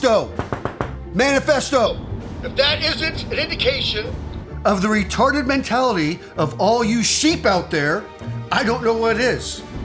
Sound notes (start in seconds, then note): 0.0 radio; 2.5 radio